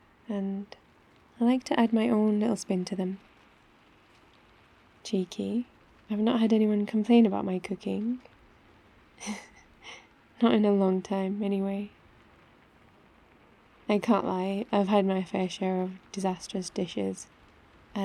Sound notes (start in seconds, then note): 9.2 laughs